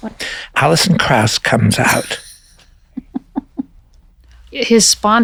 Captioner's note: laughs